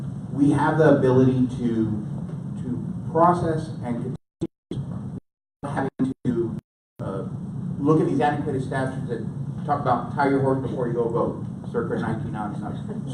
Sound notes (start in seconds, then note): 4.2 audio cutting out; 10.1 speaks quickly